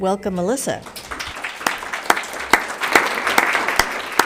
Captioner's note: applauds